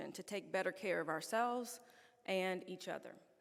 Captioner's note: none